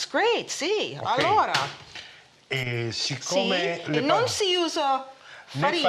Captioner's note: speaking Italian